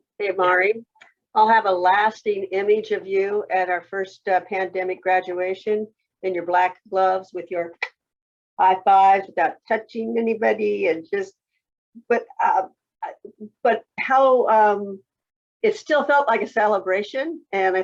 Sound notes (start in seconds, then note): 8.1 clicking